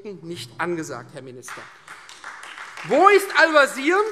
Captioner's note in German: Beifall Freie Demokraten